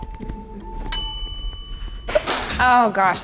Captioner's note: bell chimes